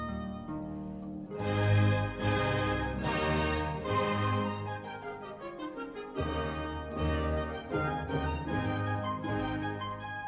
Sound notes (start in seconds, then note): none